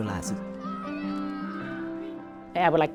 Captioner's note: children screaming